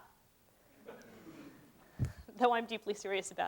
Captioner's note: laughter